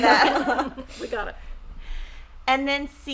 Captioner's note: everyone laughing